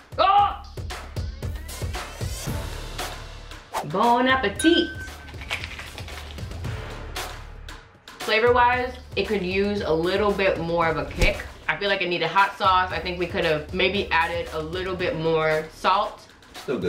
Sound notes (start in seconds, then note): 0.2 screams; 5.2 crunching